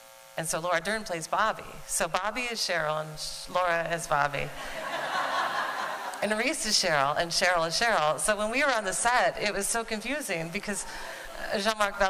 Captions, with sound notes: And so Laura Dern plays Bobbi. So Bobbi is Cheryl and Laura is Bobbi. [Laughter.] And Reese is Cheryl, and Cheryl is Cheryl. So when we were on the set, it was so confusing because Jean-Marc Vallée,